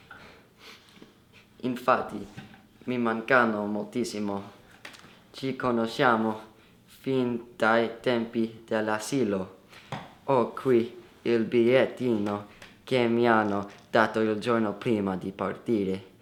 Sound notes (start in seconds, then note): 0.1 sniff